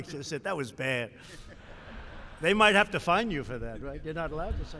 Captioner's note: laughter